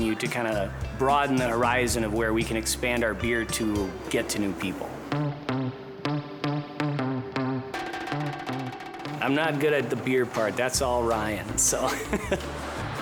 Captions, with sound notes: to kinda broaden the horizon of where we can expand our beer to get to new people. (lively rhythmic music) I'm not good at the beer part, that's all Ryan, so (laughs).